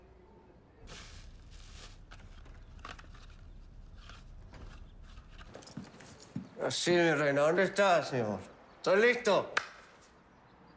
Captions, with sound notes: (door opens and closes) - Now then, my queen. Where are you, my love? I'm ready.